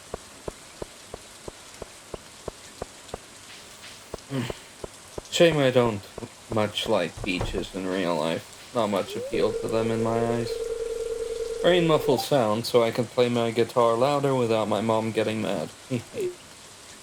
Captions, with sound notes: *Sigh*, shame I don't much like beaches in real life. Not much appeal to them in my eyes. Rain muffles sound, so I can play my guitar louder without my mom getting mad, hehe.